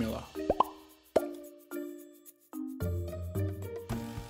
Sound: popping bubbles

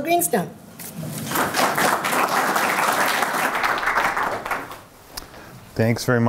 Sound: applause

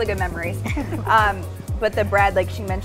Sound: laughing

